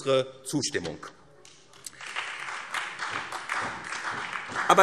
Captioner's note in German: Beifall SPD